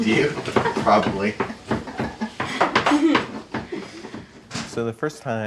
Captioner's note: laughs